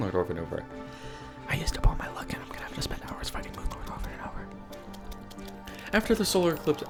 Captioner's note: whisper